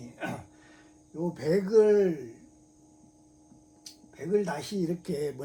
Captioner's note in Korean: 목을 가다듬음